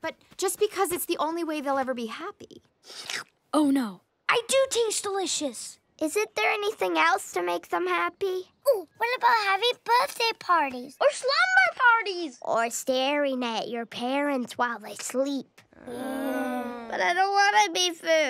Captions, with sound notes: --but just because it's the only way they'll ever be happy. [slurp] Oh no. I do taste delicious. Is it there anything else to make them happy? Oh, what about having birthday parties-- --or slumber parties-- --or staring at your parents while they sleep. Ugh. But I don't want to be food.